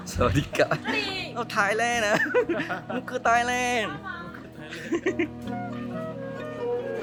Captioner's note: laugh; laugh